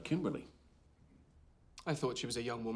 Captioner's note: none